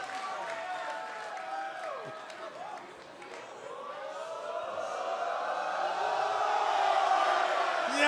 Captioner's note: crowd cheering